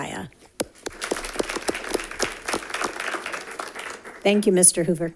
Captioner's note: audience applauding